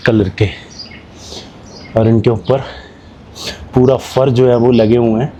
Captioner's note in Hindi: नाक से की जाने वाली आवाज़